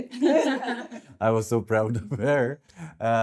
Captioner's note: laughing